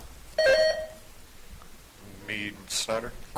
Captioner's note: buzzer chiming